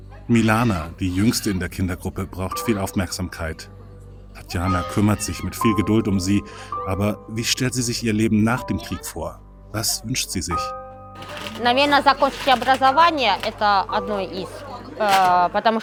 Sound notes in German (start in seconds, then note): none